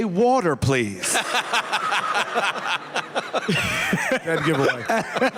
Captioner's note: laughter